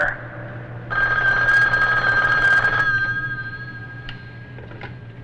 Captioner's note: phone rings